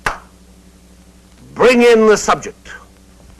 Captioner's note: claps